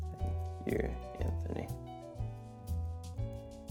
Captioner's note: quietly